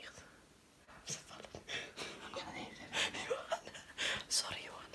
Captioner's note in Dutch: gelach